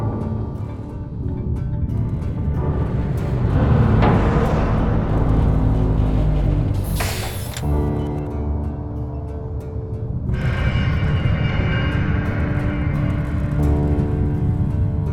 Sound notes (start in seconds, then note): 2.1 dramatic music; 2.1 metal-on-metal scraping; 8.4 machines beeping; 10.8 metal-on-metal scraping